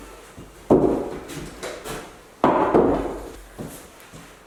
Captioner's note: wood thudding